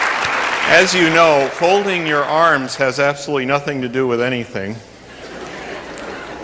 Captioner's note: laughter